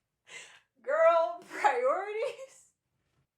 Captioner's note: laughter